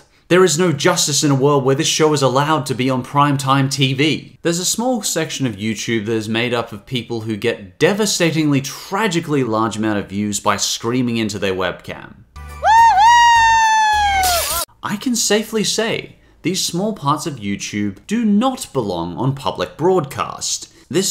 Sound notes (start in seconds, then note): 14.2 glass breaking